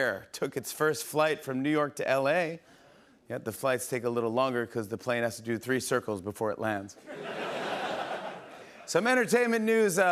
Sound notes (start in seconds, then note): 7.0 laughter